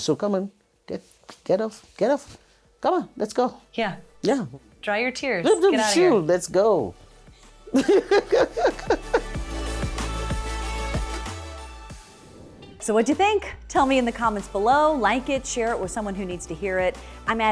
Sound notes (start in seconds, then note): 7.7 laughs